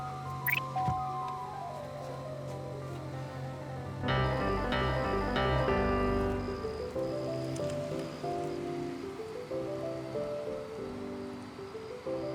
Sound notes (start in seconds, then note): 0.2 faint frantic music; 4.2 music intensifies; 5.5 crickets chirp